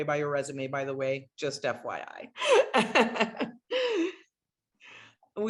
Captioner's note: laughs